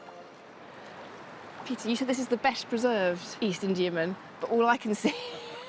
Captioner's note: waves sloshing